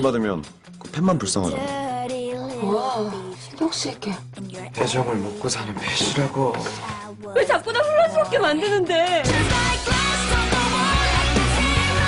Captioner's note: laughs